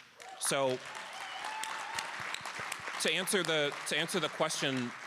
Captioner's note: cheers and applause